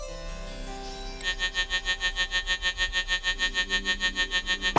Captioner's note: birds chirping; cheerful music continues; phone buzzing